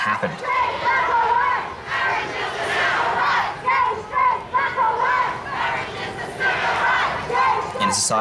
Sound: chanting

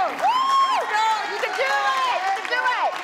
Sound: excited cheering

